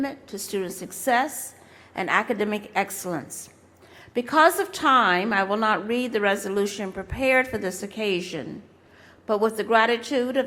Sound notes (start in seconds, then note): none